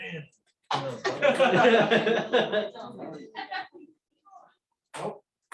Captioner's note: laughter